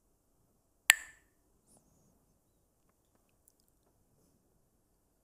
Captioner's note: clacks the sticks